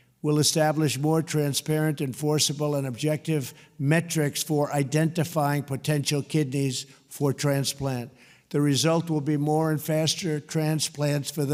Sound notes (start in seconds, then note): none